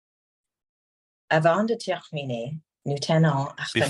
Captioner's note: speaking French